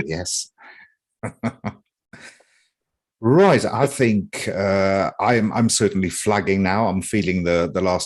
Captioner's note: chuckles